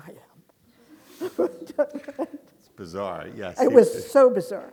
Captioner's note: audience laughing